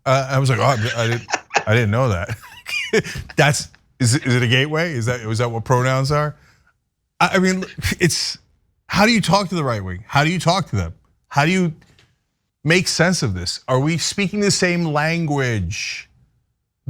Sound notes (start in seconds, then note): 0.3 laugh